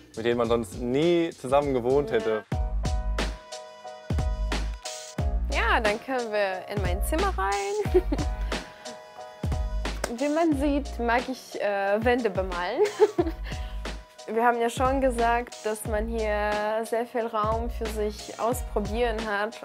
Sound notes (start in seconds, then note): 2.4 dynamic music; 7.9 laughs; 12.7 laughs